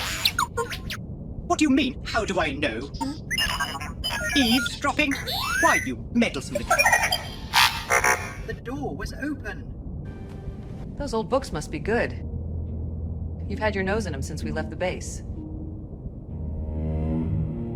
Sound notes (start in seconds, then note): 0.0 R2D2 beeps; 2.9 R2D2 beeps; 6.7 R2D2 beep sounds like laughter